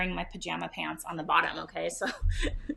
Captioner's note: chuckles